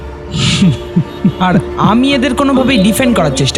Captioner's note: laugh